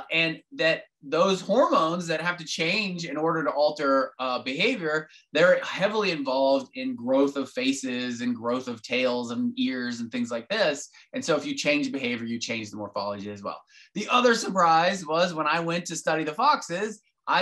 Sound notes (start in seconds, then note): none